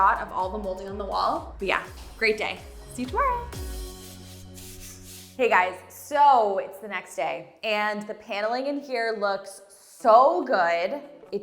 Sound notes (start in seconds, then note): 3.3 screen swishing